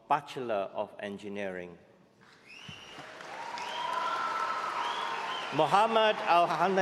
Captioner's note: cheering